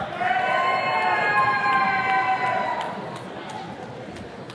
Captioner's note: attendees cheering